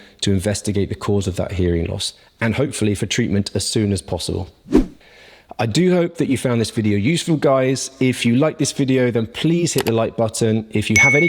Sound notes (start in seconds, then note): 4.7 swoosh; 11.0 button pops